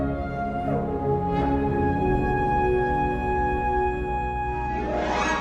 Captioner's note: none